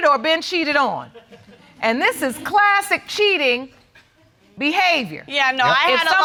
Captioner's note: audience chuckles